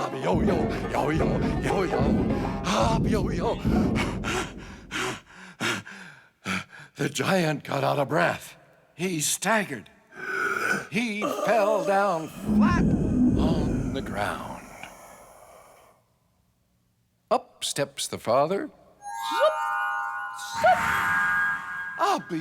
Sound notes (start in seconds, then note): 3.7 Abiyoyo panting; 15.0 Abiyoyo gasping; 19.0 twinkling music